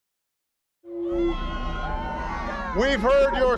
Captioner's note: cheers